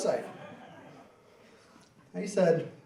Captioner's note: laughing